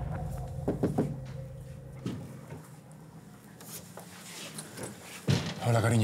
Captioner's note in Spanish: Toques en la puerta